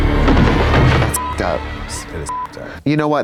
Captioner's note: beep